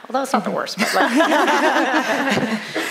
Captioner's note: laughter